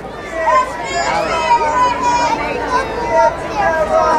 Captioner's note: crowd cheering